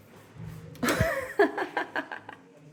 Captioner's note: laughing